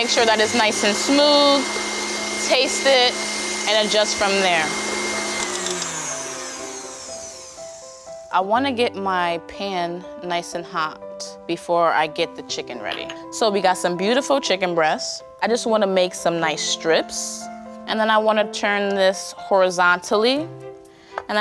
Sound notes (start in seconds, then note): 4.1 whirring slows